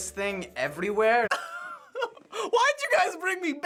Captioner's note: laughing